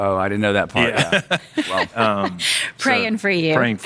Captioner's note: laughing